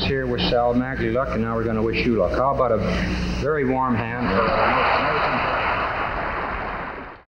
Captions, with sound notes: WISHED SAL MAGLIE LUCK AND NOW WE'RE GOING TO WISH YOU LUCK HOW ABOUT A VERY WARM HAND? [CROWD CLAPPING]